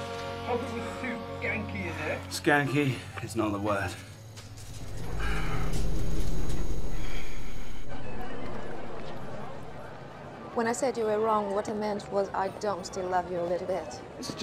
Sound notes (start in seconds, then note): 7.9 background chatter and music